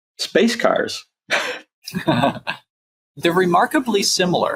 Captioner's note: laughs